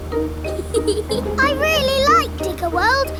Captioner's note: george chuckling